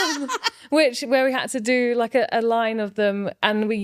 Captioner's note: laughing